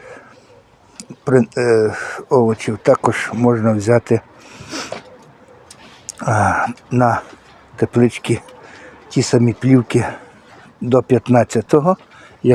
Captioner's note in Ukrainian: сопіння